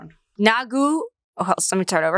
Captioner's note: speaks foreign language